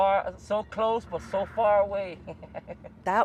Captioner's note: laughter